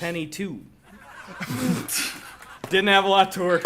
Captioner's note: group laughs